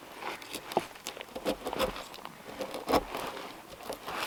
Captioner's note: chisel scraping